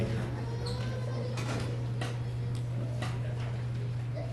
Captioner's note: people chattering